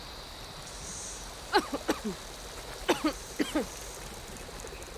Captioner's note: Aloy coughing